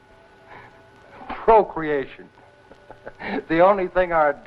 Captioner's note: laughs